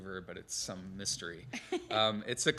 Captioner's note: laughter